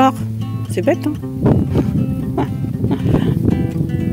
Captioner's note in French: rires